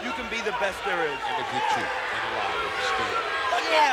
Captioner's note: gorilla speaking faintly